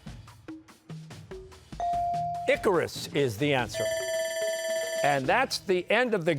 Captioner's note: bell ringing